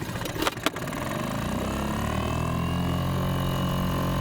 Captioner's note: engine revving